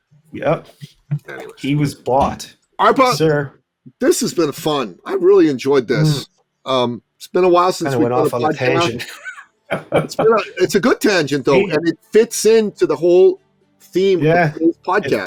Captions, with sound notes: Yep, he was bought. - Arpa, this has been fun. I really enjoyed this. It's been a while since we put a podcast. - I went off on a tangent. (laughing) - It's a good tangent though, and it fits into the whole theme of this podcast.